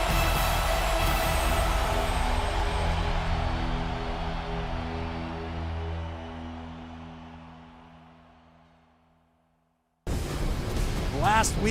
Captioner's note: cheers and applause